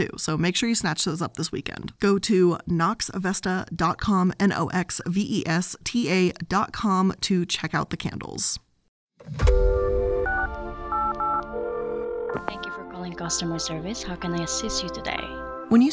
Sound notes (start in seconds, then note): 9.5 gentle music; 10.9 dialing tone rings